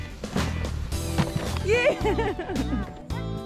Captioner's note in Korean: 웃음